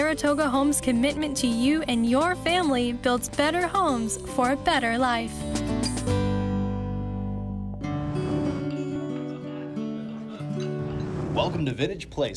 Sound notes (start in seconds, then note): 7.6 whoosh